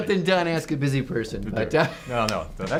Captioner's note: laughs